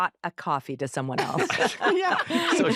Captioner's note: all laugh